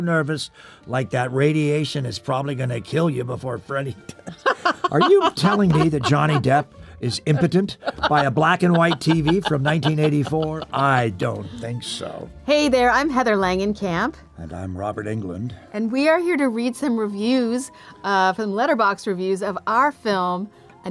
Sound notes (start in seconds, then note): 4.1 Heather laughing